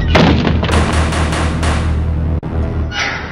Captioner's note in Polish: znowu pukanie do drzwi